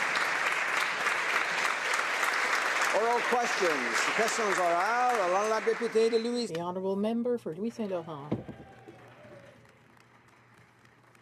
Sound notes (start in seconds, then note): 0.0 some Applause; 8.6 speaking French